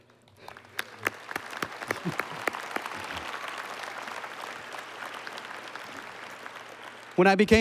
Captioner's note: applause